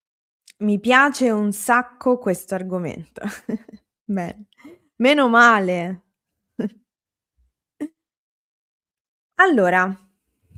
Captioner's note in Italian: risate